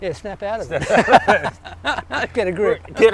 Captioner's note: laughs